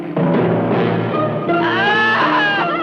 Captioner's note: Manuel screams